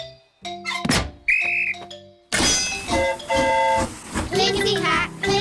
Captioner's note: blows whistle; train horn toots